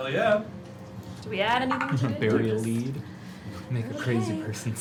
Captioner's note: laughs